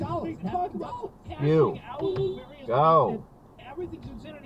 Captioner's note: beepbeep